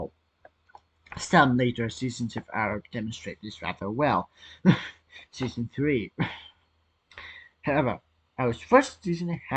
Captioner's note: cough